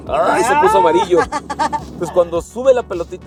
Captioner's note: laughter